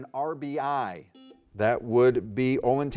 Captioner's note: buzzer beeping